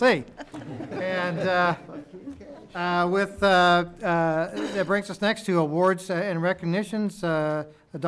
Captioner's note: laughter